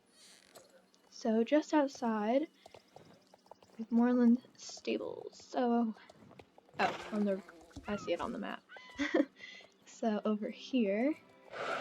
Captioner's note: lil' laugh